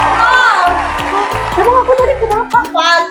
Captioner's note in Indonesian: bersorak